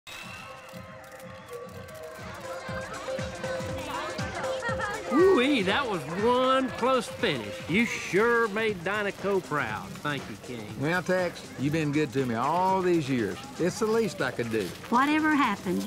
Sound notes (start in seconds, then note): 0.0 electronic music playing; 0.2 cameras clicking